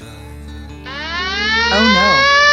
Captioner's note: police siren wailing